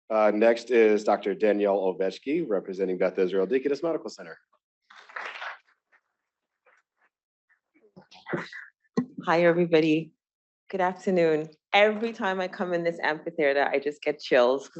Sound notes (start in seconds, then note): 5.0 applause